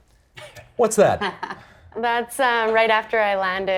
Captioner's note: chuckling